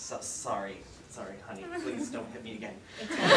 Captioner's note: audience laughter